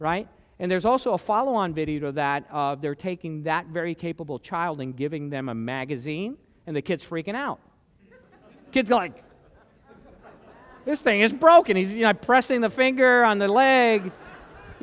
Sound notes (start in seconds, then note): 9.0 laughter